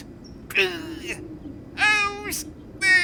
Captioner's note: grunting; strained